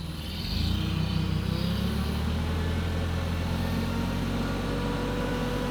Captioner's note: forklift engine revving